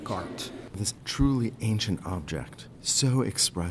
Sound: voiceover

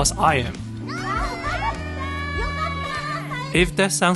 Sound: excited hunter noises

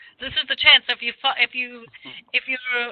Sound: laughs

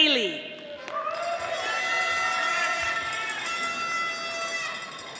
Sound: audience applauding

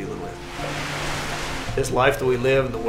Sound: trees rustle

